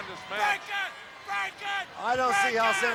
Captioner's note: Smash continued yelling